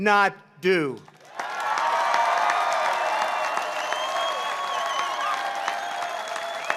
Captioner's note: applause